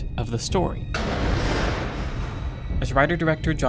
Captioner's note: noise on roof